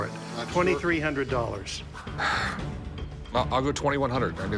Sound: sighs

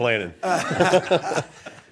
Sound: laughter

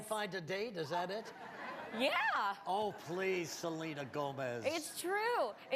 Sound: laughter

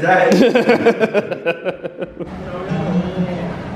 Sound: friends laugh; gentle music

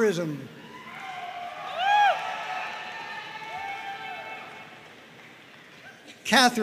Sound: audience cheering and applauding

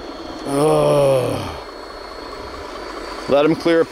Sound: sighs

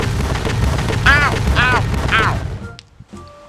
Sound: hurt Sounds

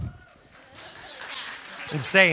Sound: audience applauds

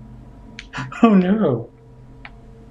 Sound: chuckling

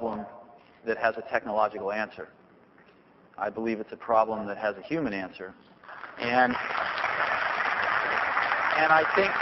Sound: applause

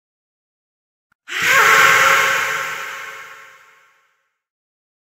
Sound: fearful scream

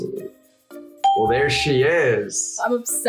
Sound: bell rings

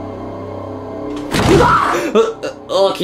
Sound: ominous music; door slams; Luigi yells

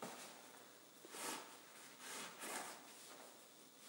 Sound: cloth rustling

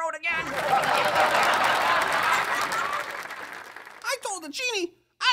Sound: laughter/applause

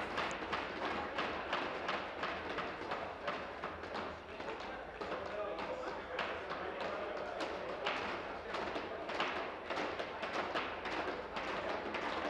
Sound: tapping of desks

